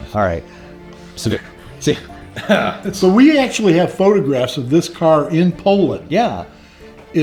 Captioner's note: laugh